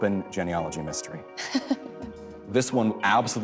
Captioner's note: chuckles